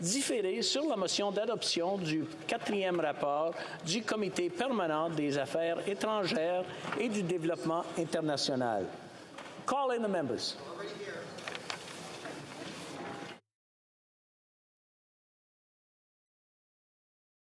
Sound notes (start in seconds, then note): 0.8 speaking French